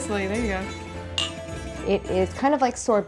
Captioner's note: cups clinks